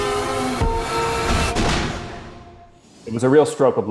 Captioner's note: gun shoots